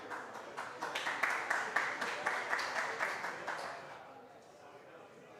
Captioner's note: applause